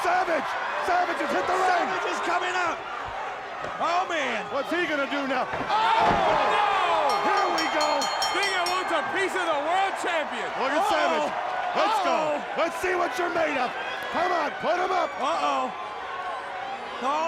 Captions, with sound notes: Savage has hit the ring. Savage is coming up. Oh man, what's he gonna do now? [Announcers In Unison] Oh no Here we go Stinger wants a piece of the world champion. Look at Savage. Let's go. Oh, let's see what's you're made up. Come on, put em up. Uh oh, oh man.